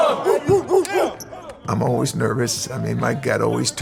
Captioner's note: imitates dog barking